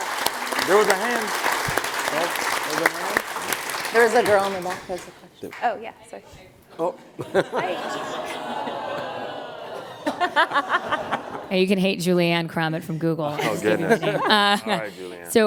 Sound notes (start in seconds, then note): 7.6 audience moaning